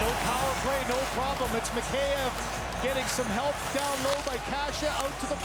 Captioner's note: cheering and Applause